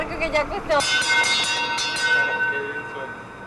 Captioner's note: bell's sound